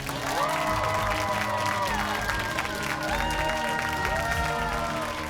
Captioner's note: cheers and applause